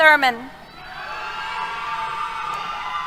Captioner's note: cheers